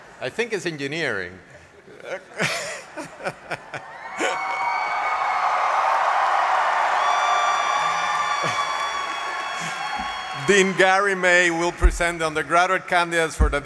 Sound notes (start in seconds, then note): 1.9 laughter; 6.4 applause